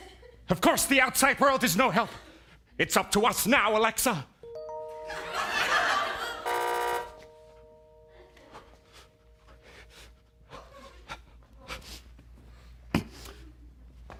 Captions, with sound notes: Of course, the outside world is no help! It's up to us now, Alexa! *Amazon Alexa sound* *buzz*